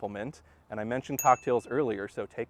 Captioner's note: chime